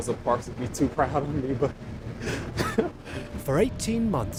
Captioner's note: laughs